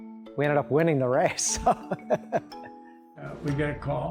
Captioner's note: laughs